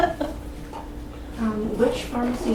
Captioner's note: laughs